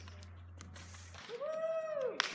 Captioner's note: cheering